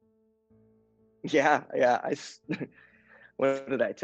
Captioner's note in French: rire